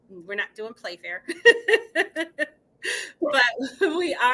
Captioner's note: laughing